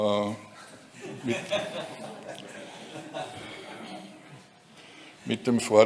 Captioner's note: laughter in the background